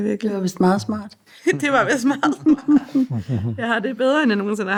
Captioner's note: laughs